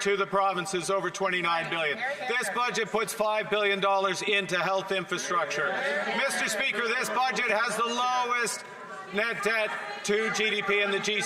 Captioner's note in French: voix de l'interprète